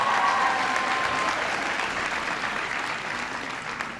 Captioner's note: applause